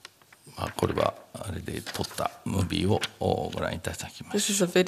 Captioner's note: speaking japanese